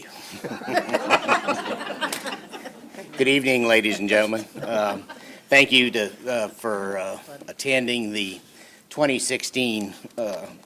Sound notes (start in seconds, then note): 3.2 laughter